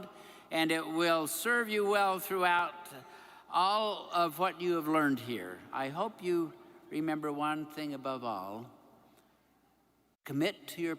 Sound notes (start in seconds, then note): none